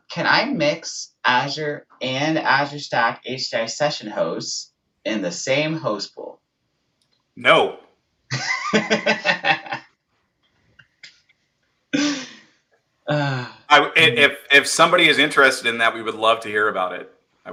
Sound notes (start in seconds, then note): 8.3 laughs